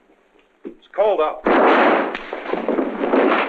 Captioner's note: gunshot